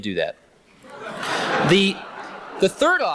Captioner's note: laughter